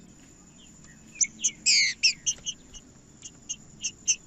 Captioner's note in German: trinca ferro cantando